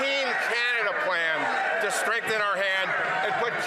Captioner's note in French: voix de l'interprète